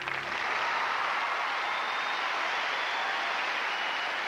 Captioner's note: applause